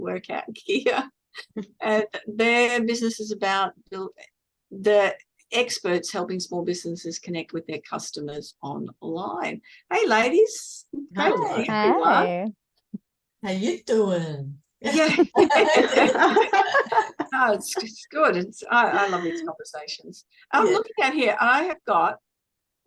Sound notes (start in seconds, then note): 14.9 everyone laughs